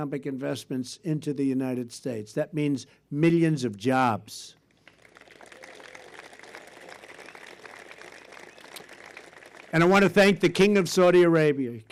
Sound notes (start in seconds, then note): 4.7 applause